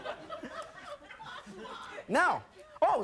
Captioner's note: audience laughing